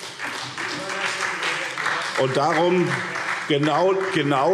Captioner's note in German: Beifall SPD